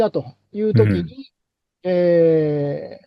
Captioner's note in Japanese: 咳払い